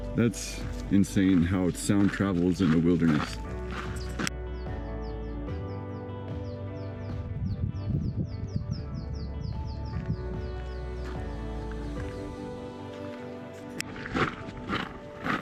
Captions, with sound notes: I can hear cars revving their engines on that road. That's insane how sound travels in the wilderness. (soft music) (birdsong)